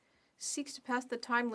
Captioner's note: speaking French